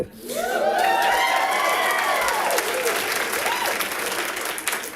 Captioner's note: audience applauding